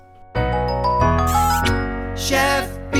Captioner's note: lively music playing; kiss sound